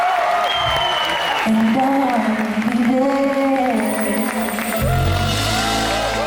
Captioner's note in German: jubel